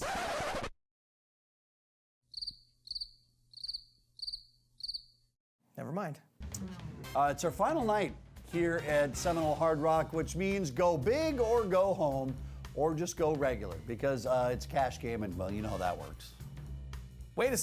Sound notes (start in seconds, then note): 0.0 record scratches; 2.3 crickets chirp